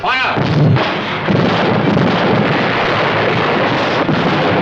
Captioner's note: explosion